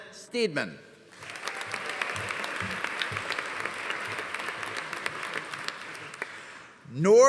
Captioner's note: audience applauding; audience cheering